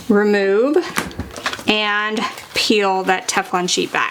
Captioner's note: sheet crinkling